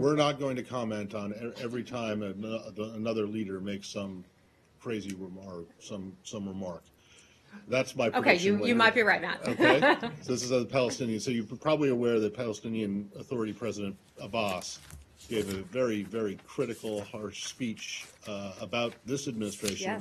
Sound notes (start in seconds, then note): 9.4 laughter